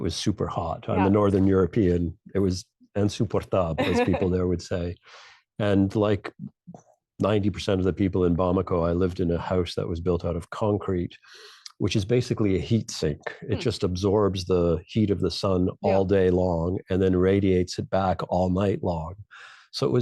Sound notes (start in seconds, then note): 3.3 speaking in French